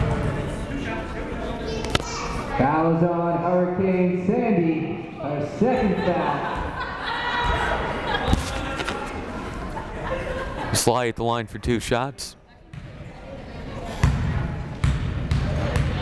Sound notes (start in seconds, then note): 5.6 players laughing